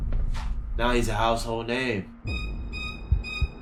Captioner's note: footsteps; intense music; heartbeats